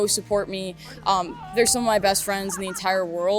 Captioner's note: girls shouting